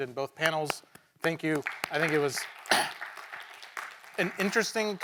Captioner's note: attendees clapping